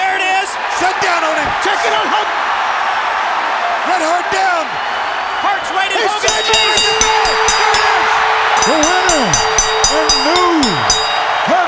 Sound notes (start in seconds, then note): 4.9 audience cheers; 6.0 bell rings